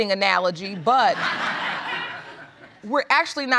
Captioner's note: crowd laughs